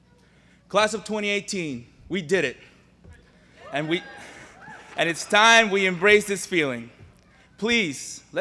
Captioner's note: cheers